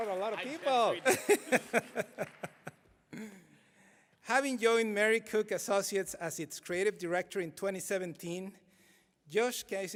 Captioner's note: applause